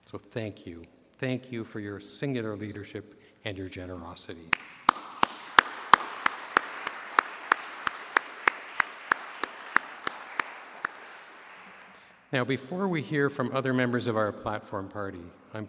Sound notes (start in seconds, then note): 4.5 applause